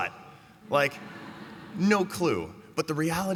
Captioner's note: laughter